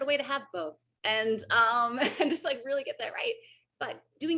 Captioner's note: AJ laughs